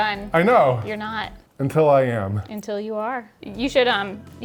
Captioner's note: none